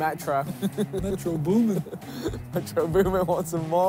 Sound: laughing

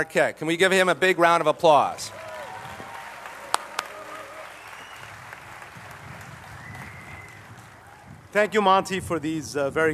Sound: applause

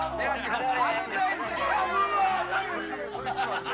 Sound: crying

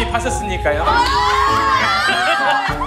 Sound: screaming

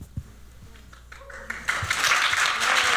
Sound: applause, cheering

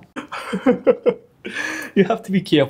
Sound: laughs

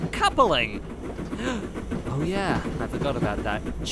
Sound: gasp

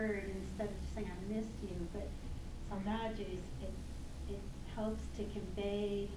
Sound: speaking foreign language

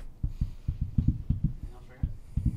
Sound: finger Tapping

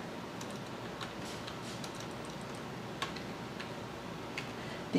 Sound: tapping sound of keyboard keys

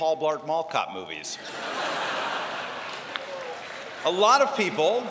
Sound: laughter

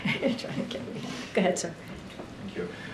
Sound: laughs

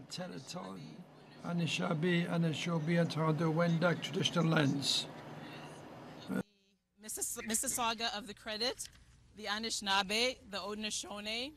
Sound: speaking French

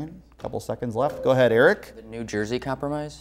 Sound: beeping

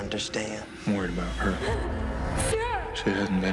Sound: gasping

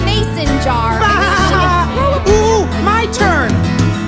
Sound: laughs

